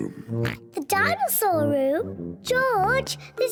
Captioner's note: oinks